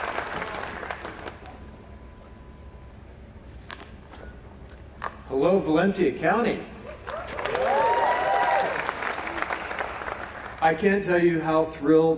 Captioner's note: applause